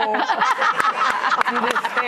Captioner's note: audience laughing